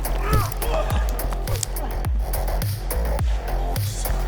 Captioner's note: missed swing